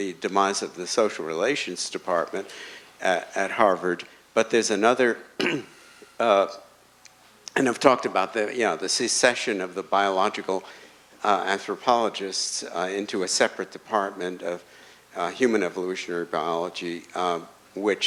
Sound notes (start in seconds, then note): 5.4 clears throat